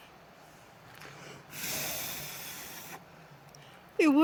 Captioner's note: blows air